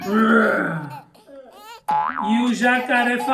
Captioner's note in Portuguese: risadinha de bebê; Som de mola